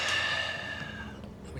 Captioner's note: sighs